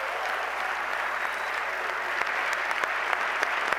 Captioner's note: applause